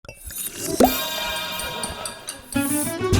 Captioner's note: magical jingle; upbeat music begins